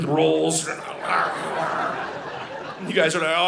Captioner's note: audience laughing